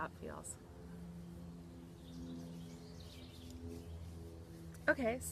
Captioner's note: birds chirping; airplane whirring